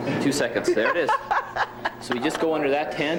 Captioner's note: laughing